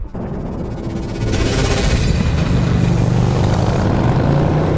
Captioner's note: motorcycle engine; electricity